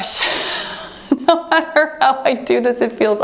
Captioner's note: laughs